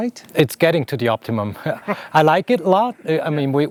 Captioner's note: laughing